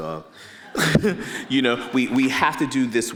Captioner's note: laughs